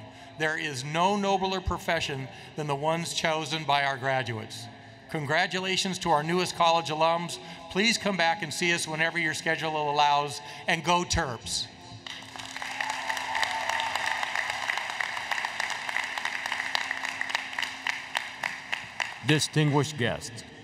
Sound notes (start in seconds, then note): 12.0 applause